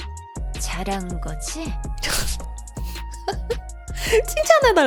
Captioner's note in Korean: 콧방귀; 웃음